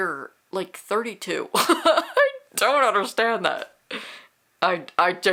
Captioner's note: laughs